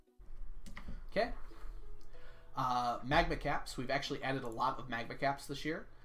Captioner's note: none